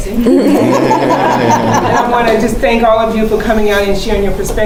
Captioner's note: laugh